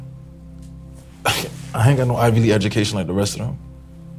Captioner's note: laughing